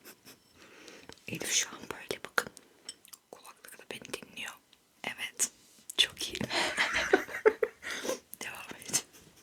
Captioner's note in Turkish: kahkaha